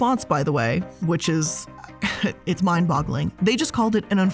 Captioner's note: chuckling